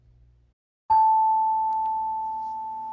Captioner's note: chime